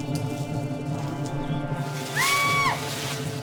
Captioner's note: woman screams